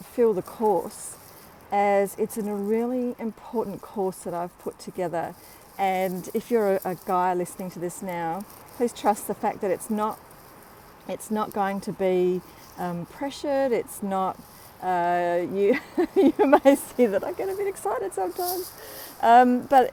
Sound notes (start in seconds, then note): 15.6 laughing